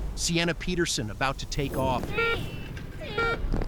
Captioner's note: beeping